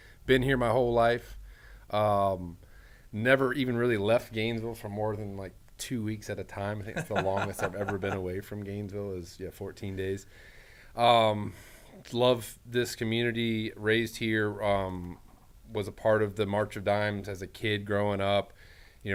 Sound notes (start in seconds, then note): 6.8 laughing